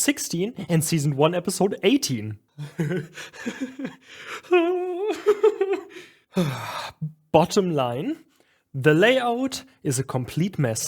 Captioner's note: maniacal laughter